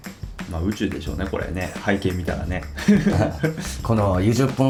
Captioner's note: laughs